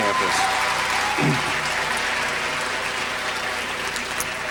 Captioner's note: applause